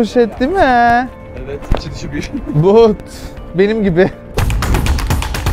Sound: laughs

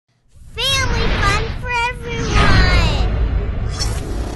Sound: voiceover

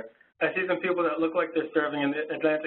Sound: voiceover

